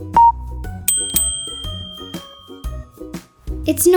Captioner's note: bell dings